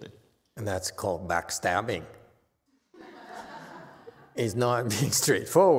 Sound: audience laughs

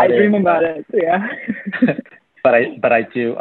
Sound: laughter

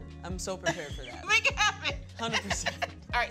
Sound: laughs

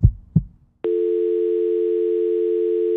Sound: phone tone

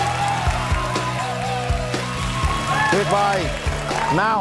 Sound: applause

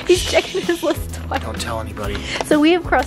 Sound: shushes

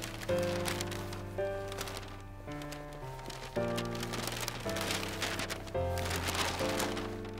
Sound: wrapping paper crinkles

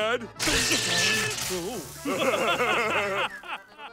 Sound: laughing

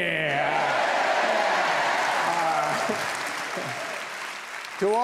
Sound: audience whooping

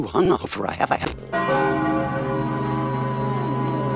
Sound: bell Chimes

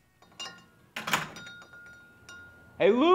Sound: door closes

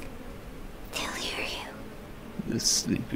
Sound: whispered

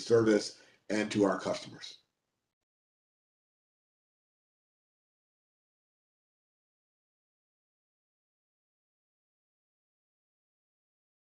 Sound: A pause

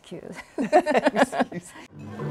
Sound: laughs

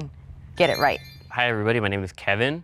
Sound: chimes chime

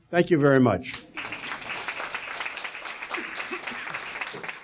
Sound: audience applauding

